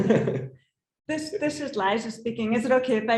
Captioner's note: laughs